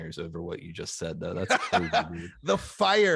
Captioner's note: laughs